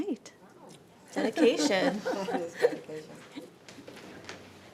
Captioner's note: panel laughs